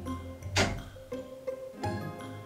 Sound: door opening

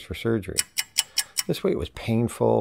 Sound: clock ticking

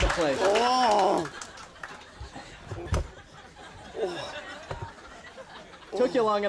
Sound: audience laughing; Andy moaning

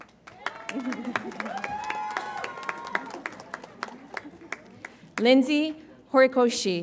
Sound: audience applauds and cheers

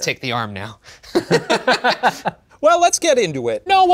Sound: laughing

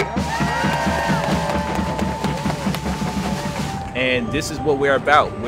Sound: crowd cheers

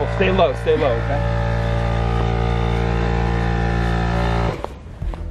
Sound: machine roaring

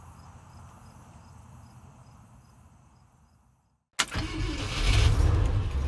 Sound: engine roaring

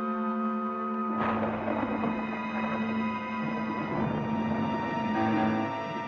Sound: thunderclap, Thunder Rumbling

